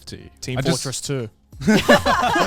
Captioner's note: all chattering